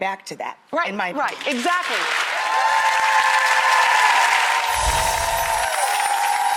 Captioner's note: audience cheers; chimes